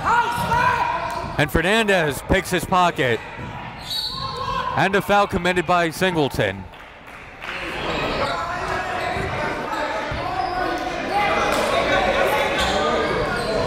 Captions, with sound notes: (players and coaches yelling) And Fernandez picks his pocket. (whistle blows) And a foul committed by Singleton. (applauding)